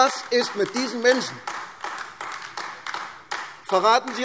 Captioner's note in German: Beifall AfD